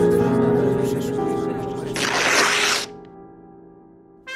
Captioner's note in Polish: trzask przedartej kartki